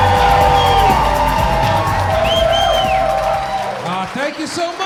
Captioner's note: audience cheering